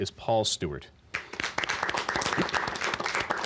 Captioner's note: applause